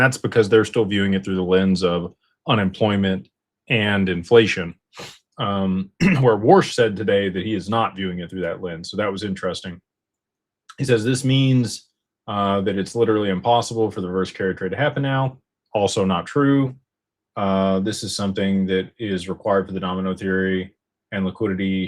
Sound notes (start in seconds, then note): 5.4 snorts; 6.0 clears throat